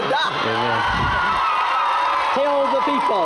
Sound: applause and cheering

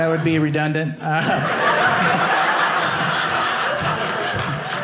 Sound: audience laughing

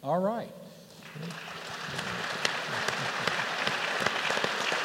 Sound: applause

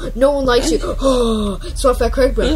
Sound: breathes in Leonardo's face

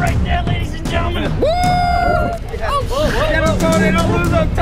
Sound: cheering

